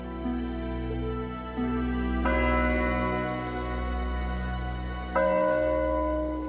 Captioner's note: bell tolling